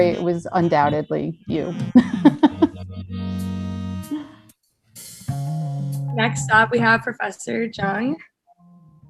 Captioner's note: laugh